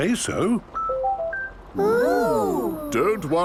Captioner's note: car chiming